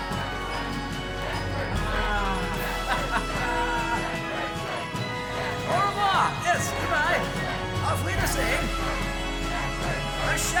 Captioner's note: crowd chanting endlessly